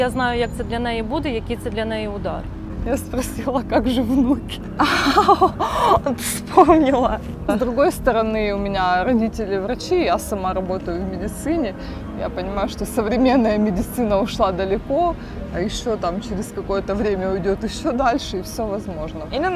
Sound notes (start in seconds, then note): 4.8 laughing